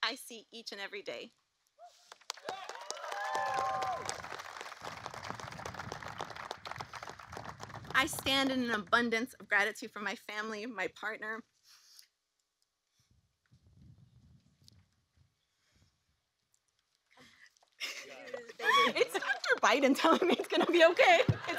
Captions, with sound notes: I see each and every day (Applause.) I stand in an abundance of gratitude for my family, my partner -- It's Dr. Biden telling me it's going to be okay,